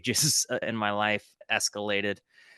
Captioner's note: chuckle